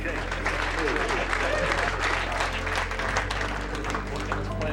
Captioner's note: crowd clapping